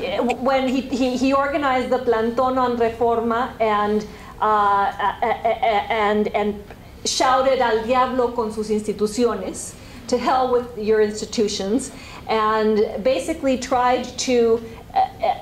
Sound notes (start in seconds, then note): 4.0 spanish